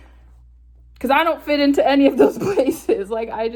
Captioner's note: laughs